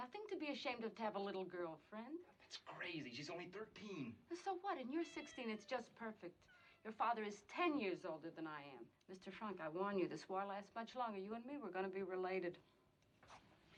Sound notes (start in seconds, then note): 4.8 meowing